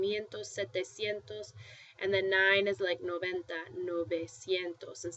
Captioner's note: spanish